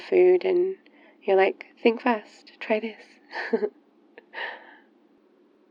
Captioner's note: laughs